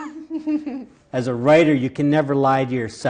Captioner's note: laughing